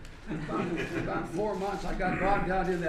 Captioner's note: laughter